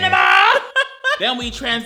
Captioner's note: laughs